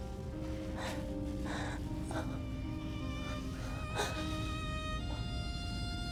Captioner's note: gentle music; Kira sobbing